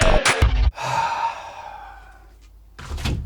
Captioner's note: sounds distorts into horror; heavy sigh